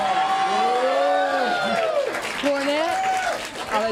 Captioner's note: crowd cheering